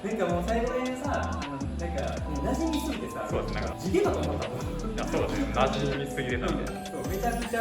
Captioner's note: laughs